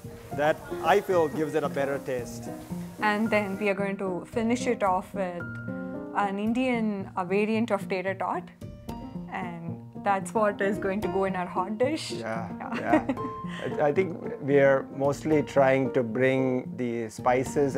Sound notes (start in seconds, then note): 12.7 laughs